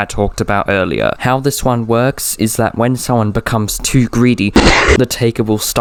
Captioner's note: cough cough